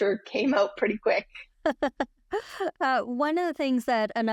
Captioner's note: laughs